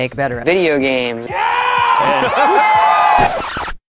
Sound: cheering; record scratch

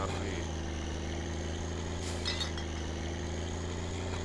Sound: engine accelerates, bottles clatter

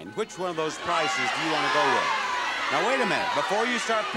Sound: audience shouting

